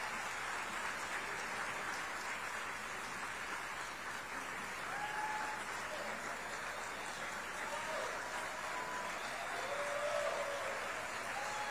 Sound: applause

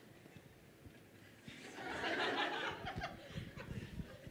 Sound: laughter

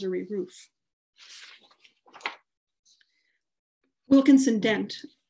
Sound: paper shuffling

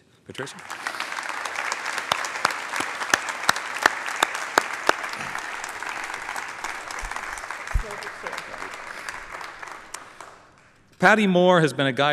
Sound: applause

